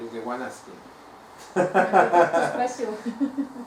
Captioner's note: hahaha